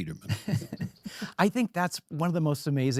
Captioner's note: laughs